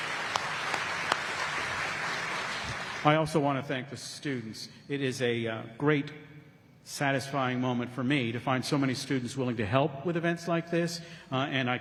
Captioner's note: applause